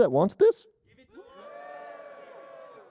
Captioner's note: cheering